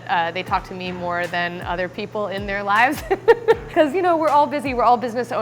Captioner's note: laughs